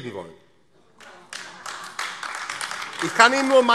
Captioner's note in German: Beifall AfD